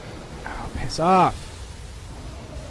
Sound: sigh

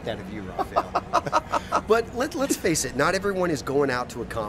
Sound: laughs

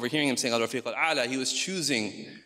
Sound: speaks in foreign language

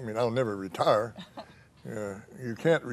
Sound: laughs

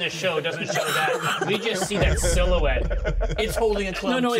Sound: laughs

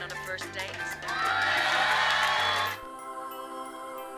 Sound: audience applauds; mysterious music

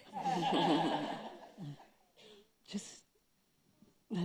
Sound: audience laughing

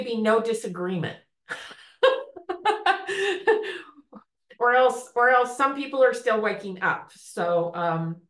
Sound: chuckles

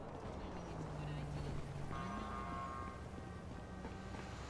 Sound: cars rumbling

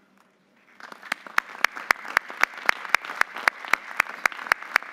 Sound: audience applauding

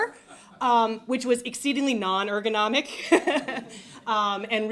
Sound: laughs

